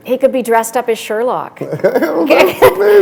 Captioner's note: chuckle